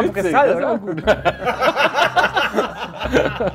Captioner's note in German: Lachen